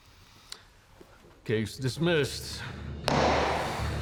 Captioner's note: strikes gavel; claps hands